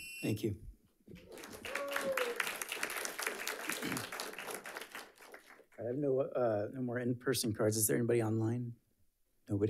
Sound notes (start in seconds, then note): 0.0 timer sounds; 1.1 audience applauds